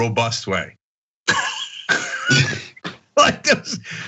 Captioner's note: laugh